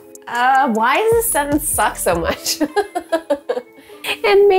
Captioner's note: laughing